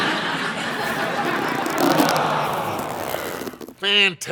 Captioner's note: audience laughing; arm creaking